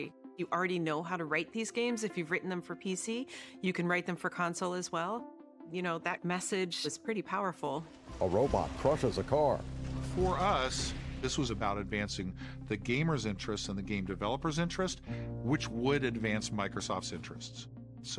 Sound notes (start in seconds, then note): 9.5 yell and crashing